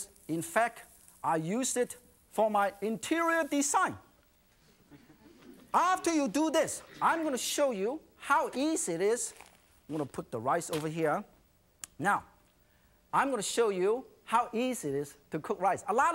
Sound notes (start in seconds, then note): 4.8 audience laughing